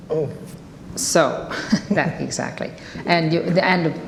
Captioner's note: laughing